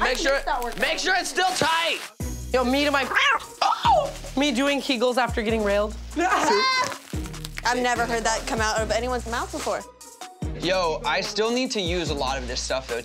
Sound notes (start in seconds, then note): 3.0 meow; 6.2 laughing